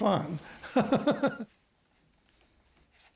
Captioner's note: laughs